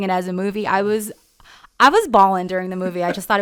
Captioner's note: laughs